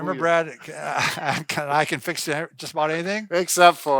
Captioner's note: laughs